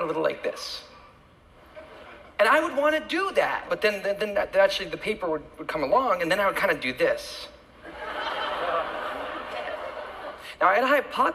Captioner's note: laughter